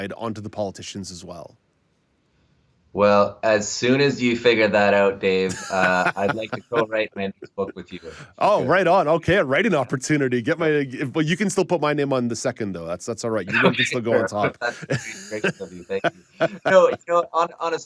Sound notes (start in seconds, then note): 13.3 laughs